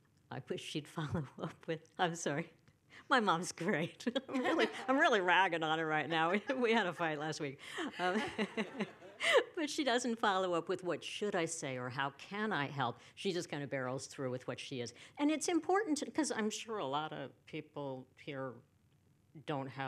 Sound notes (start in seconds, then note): 7.8 laughter